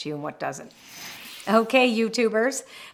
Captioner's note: frame whooshes